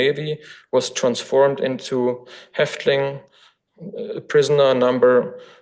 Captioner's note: foreign language